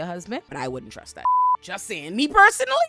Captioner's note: beep